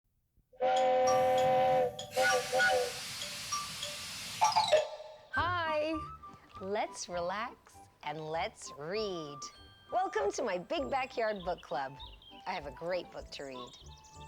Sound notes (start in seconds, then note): 0.6 train horn honking